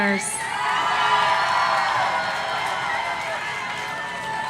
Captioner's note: audience cheering